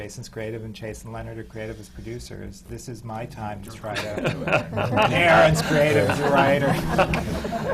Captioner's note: laughter